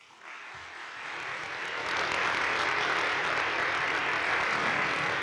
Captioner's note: audience applauding